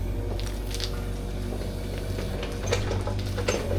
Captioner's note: machinery whirring